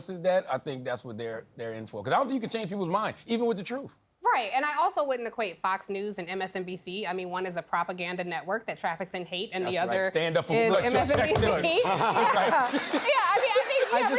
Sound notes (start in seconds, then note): 11.3 laughter